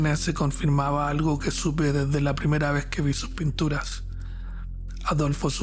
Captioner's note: narrator speaking Spanish